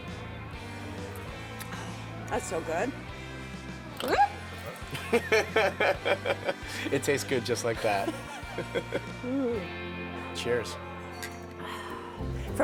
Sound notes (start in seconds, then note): 1.5 gasping; 4.0 laughing